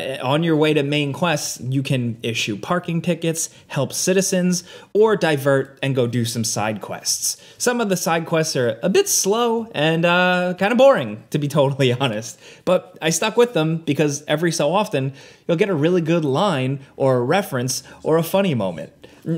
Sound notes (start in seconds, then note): none